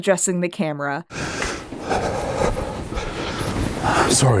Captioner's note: Rustling and Jack's breathing is way too loud